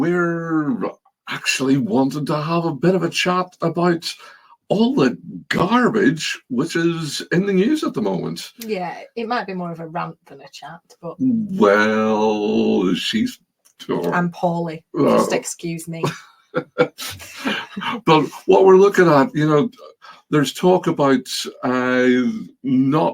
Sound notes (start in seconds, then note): 18.2 chuckling